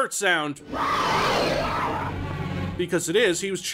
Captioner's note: beast roaring